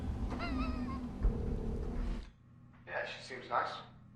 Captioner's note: Chris chuckling